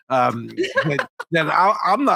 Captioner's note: laughing